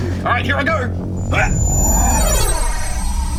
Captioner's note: grunts